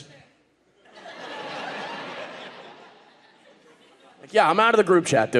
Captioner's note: audience laughing